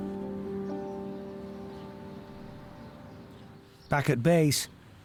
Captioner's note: uplifting instrumental music; birds chirping